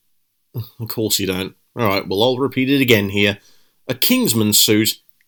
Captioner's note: groan